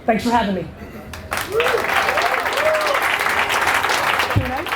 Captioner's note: audience applause and cheers